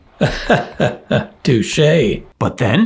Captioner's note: laughing